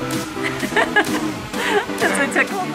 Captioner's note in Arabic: يضحك